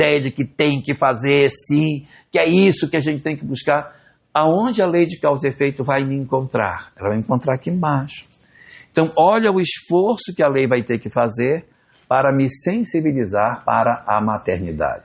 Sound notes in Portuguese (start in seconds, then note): none